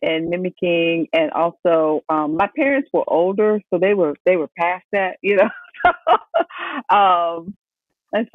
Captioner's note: laughs